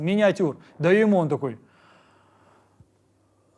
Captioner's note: inhales deeply